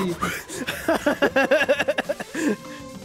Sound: panting; laughs

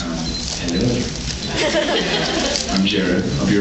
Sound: laughs

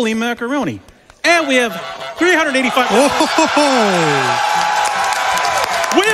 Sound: audience cheers

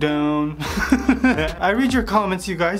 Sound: laughs

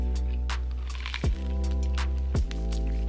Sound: crunchy sound

